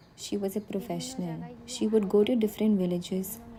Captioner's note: speaking alternate language